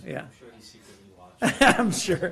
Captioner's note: laughter